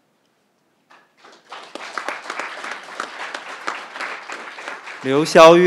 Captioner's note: crowd applauding